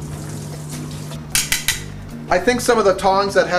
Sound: tongs clicking

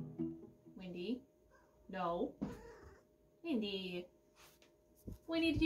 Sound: cat jumps on table

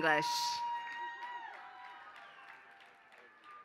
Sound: applause

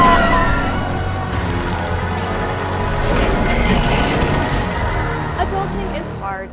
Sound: dramatic music; engine rumbling; people yelling; dramatic music

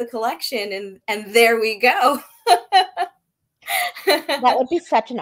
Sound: laughing

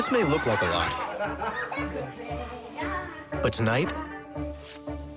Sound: laughter

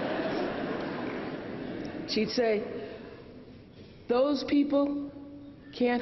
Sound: laughter

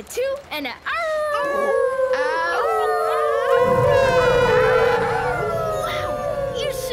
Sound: howling

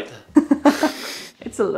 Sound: laughs

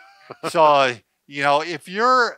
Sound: laughs

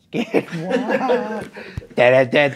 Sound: laughing; vocalizing

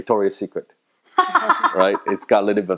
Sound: laughing

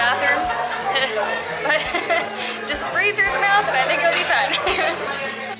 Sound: laughter

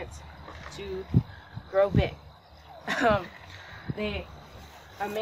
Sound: laughs

